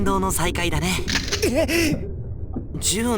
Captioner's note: chuckle; alert